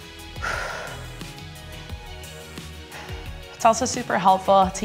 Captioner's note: exhales